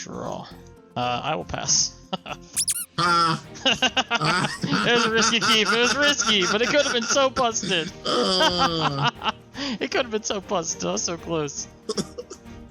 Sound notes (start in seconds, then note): 1.9 laughs; 2.6 squeaking sound; 3.6 both laugh; 8.0 laughs